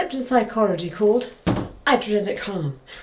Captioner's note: stick thuds